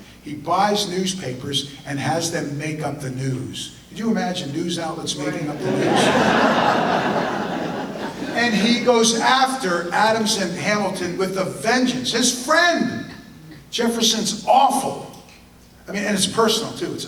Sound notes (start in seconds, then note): 5.5 audience laughter